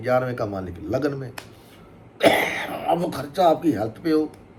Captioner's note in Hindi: खांसने की आवाज़; गला साफ़ करने की आवाज़